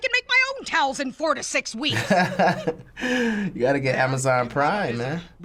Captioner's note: laughs